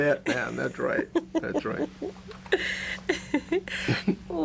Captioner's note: interviewer laughs